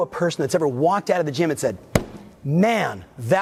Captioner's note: slaps desk